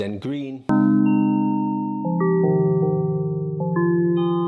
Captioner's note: chimes chiming